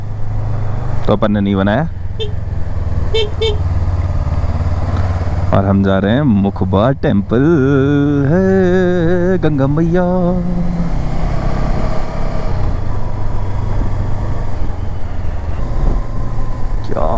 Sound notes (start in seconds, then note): 7.6 humming